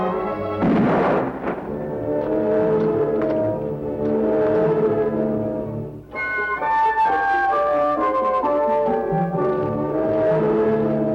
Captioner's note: gunshot